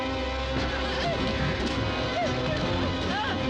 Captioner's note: yelling